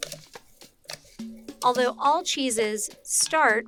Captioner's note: spoon scrapes